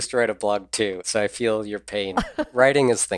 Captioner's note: laughs